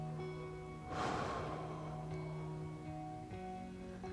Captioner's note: inhaling; exhaling; calm music